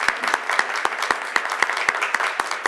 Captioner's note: applause